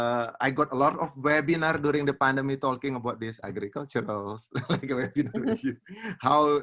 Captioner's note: laughs